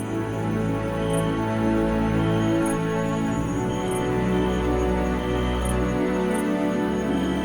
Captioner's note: serene music continues; insects chirping